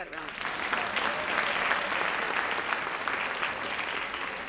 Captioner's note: audience applauds